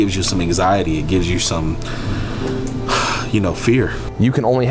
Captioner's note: exhales loudly